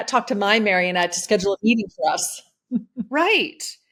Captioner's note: laughs